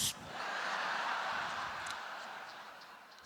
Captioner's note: laughter